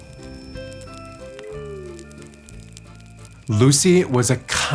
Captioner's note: gentle music; owl whistles